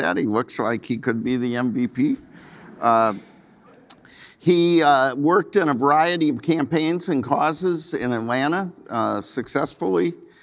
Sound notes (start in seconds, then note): 2.2 audience laughing